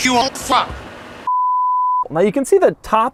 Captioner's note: bars and tone